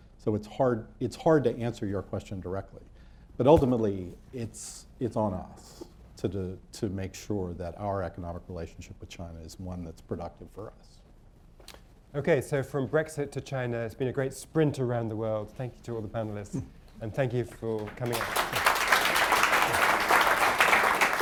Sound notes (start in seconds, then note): 17.7 applause